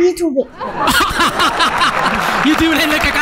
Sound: laughter

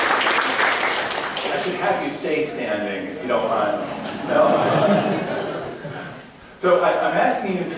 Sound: applause; audience laughter

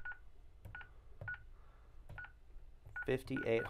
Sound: beeping

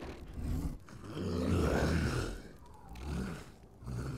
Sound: grunt

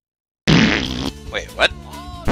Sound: record scratches; game farts

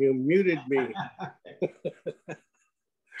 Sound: chuckles

